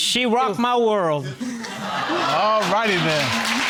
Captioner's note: audience exclaiming; all applauding